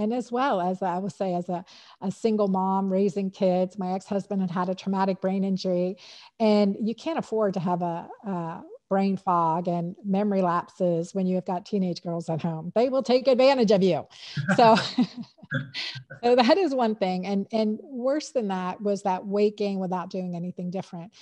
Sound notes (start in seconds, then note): 14.4 laughter